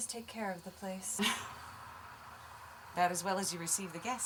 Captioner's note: chuckling